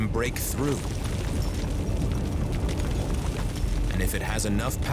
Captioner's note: magma oozing, rock splitting